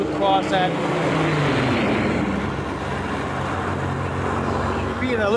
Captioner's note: plane engines roaring